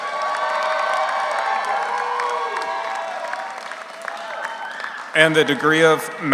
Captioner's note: audience applauds; audience cheers